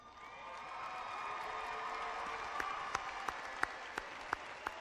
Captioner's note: clapping and cheering